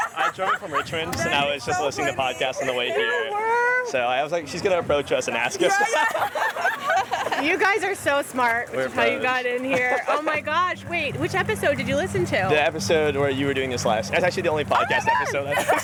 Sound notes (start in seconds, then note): 7.4 laughter; 14.7 laughter